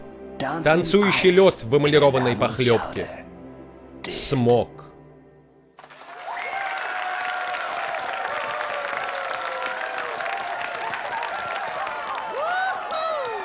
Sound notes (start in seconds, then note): 5.8 <i>wild applause and cheers</i>